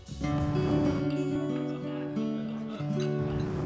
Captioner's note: whoosh